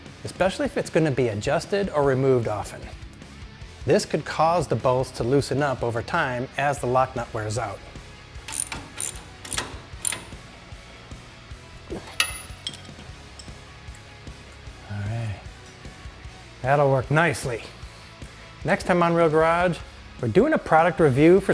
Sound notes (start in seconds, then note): 8.4 tool clicking; 8.9 upbeat rock music